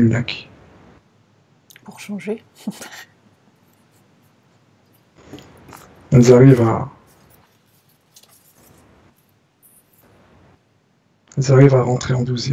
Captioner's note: laughs